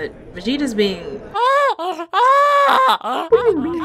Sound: BABY TRUNKS cries

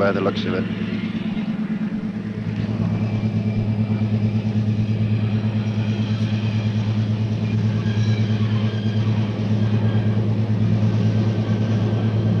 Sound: sound of the train moving

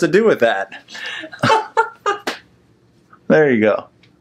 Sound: laughs

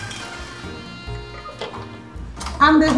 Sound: machine stops

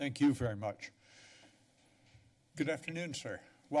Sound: pause

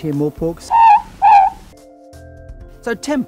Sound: ruru-morepork bird call

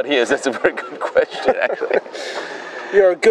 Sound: laughs

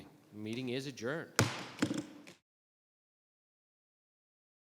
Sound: gavel thudding

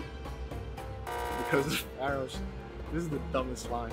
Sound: buzzers

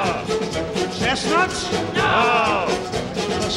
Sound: crowd; crowd

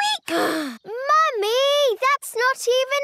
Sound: sighs

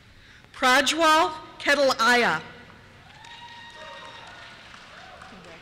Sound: cheers

